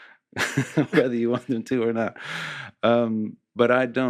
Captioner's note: laughs